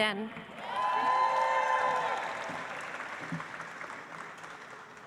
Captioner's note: audience applauds